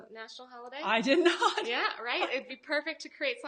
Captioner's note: laughs